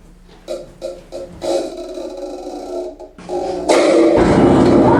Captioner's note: creaking; thunder rumbling, discordant piano